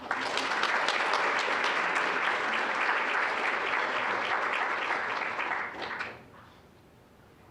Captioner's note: applause